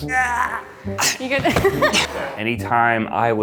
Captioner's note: groans; laughs; groans